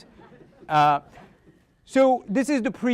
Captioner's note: audience laughing